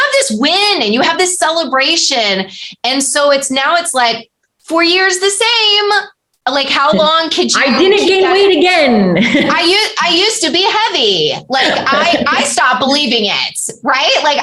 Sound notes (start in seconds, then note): 9.0 laughter